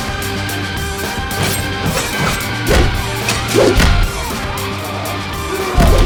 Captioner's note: blows thudding; knife whooshing; fighters grunting